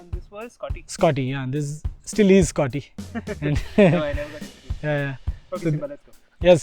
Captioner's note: chuckle